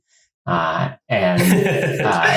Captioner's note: laughs